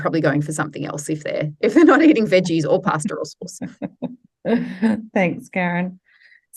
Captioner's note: both laugh